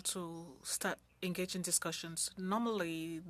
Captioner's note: speaking French